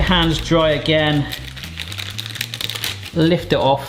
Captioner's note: paper rustling sound